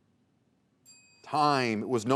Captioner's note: bell dings